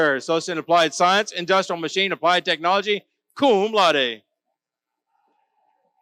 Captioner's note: none